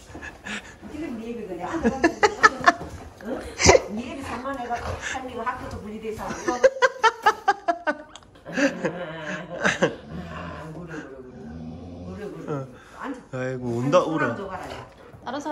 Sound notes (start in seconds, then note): 8.4 happy growling